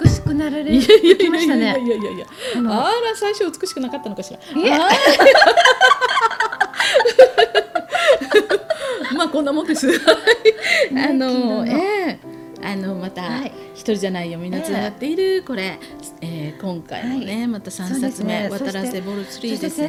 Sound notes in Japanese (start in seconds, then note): 4.7 二人で笑いあう